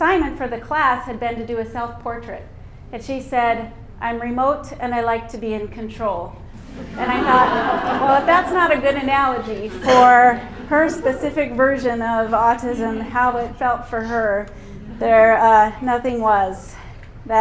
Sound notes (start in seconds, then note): 6.7 laughter